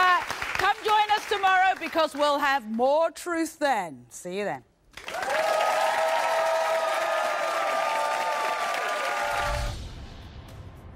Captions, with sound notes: Yeah, alright, come join us tomorrow because we'll have more truth then. See you then. (applause)